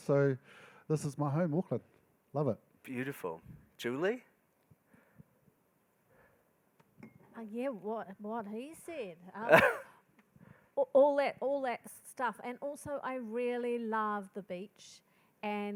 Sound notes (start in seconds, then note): 9.4 laughing